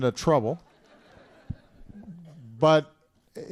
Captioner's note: laughter